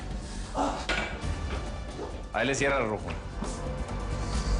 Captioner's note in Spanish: Quejidos